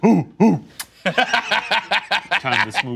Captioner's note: imitation; kissing sound